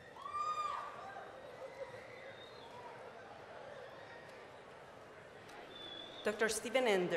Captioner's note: cheering, whistling